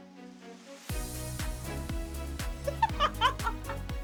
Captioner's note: laughing